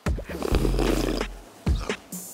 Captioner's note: slurp~